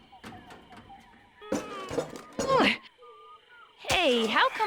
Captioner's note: grunting